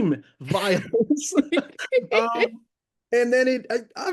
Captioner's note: laughing